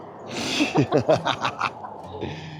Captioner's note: laughing